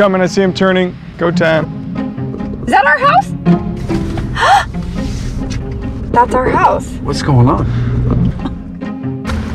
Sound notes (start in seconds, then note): 4.3 gasps